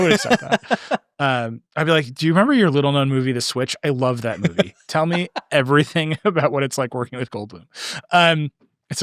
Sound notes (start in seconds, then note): 0.0 laughing; 4.2 laughing